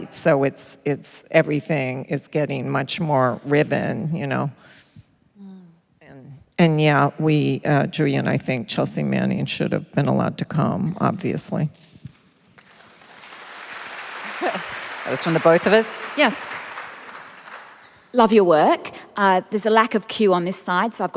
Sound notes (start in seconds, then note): 12.5 applause